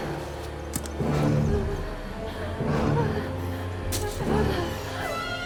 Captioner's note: Josey's voice quavers with fear; suspenseful music